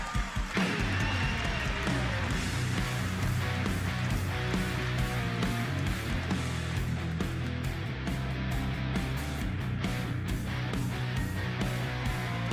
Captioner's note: applause